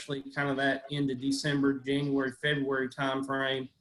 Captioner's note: audio is choppy